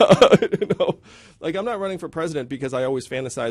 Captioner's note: yang laughs